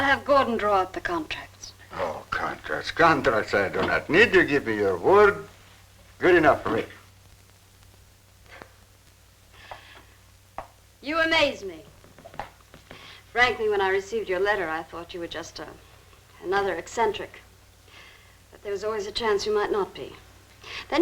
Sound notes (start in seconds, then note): 8.6 chuckling